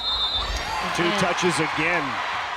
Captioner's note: whistle blows